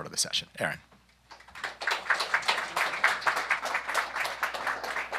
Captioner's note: applause